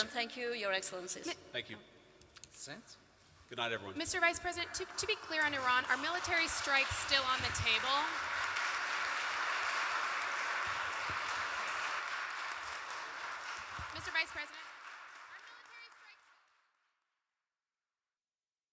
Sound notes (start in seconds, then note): 8.9 applause